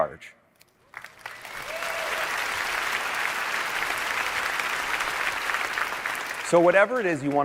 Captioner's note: applause